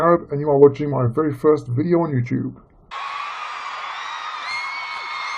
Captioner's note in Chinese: 欢呼